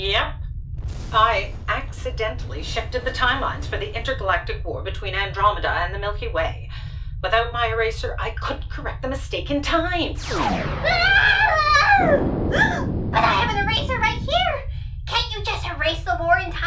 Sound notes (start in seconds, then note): 10.1 sound of missiles